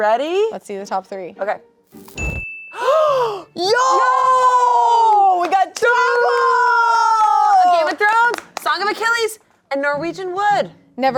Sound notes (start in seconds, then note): 2.7 gasp